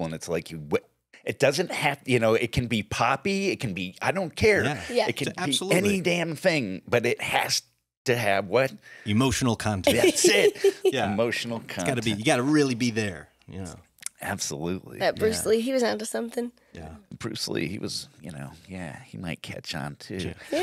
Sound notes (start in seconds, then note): 9.8 laughs